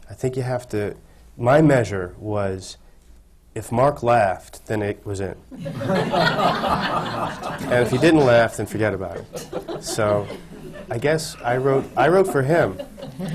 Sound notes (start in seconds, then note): 5.5 laughter